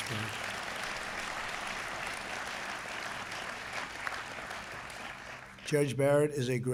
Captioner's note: applause